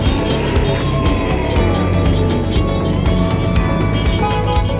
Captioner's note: crowd cheering; car engine revving; horns honking